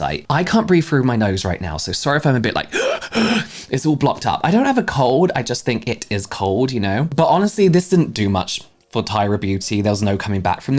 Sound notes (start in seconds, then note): 2.7 gasp